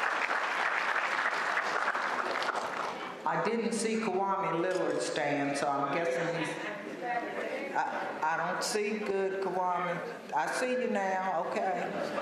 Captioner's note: applause